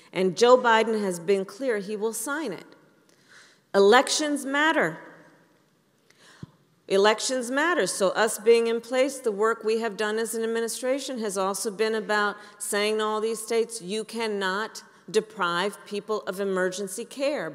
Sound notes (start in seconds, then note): none